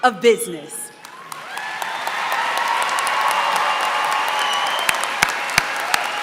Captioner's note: applause